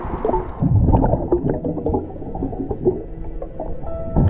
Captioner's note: suspenseful music; water bubbling